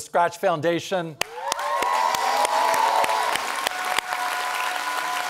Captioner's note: audience applauds